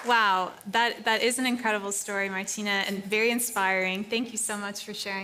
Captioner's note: applause